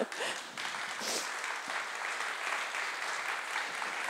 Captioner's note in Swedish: Applause